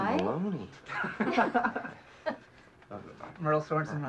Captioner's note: laughs